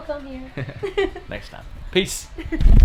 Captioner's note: laughing